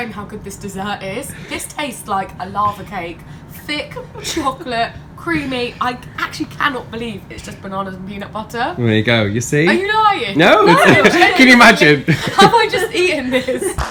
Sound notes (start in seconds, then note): 10.5 laughs